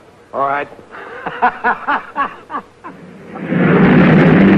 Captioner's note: happy laughing; cars revving